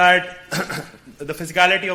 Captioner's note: clears throat